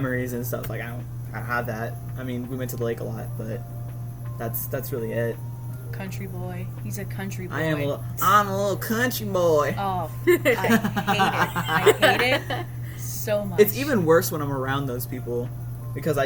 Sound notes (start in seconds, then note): 7.8 southern accent; 10.3 laughs